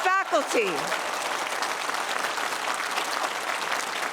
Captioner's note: applause